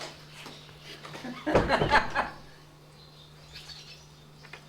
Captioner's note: laughing